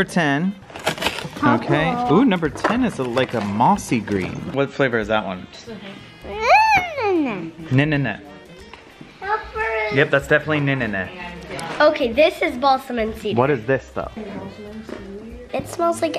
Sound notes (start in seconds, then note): 6.0 squeals